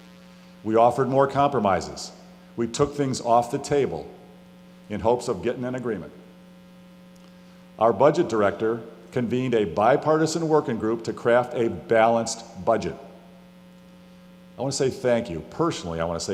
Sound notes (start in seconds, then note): none